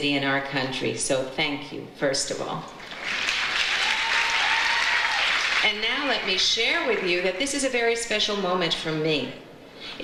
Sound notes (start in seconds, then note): 2.8 audience applauds; 3.0 audience cheers